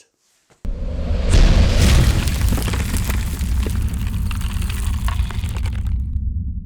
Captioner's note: collision and debris falling